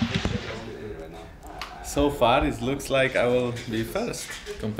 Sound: smug

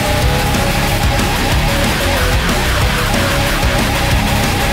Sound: hahahahahahaha!

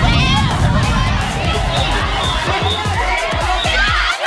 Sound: people screaming indistinctly

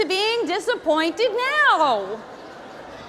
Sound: audience laughing

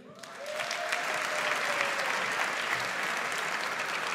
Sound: audience applauds

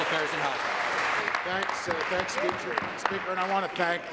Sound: applause

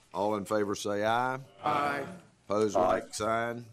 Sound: chorus of ayes

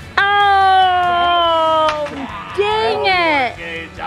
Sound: exclaiming

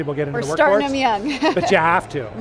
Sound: laughing

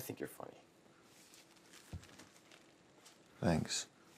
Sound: plastic sheet being handled

